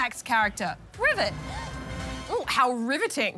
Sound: gasps

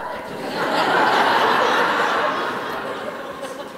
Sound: audience laughs

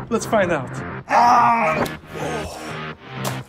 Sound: scream

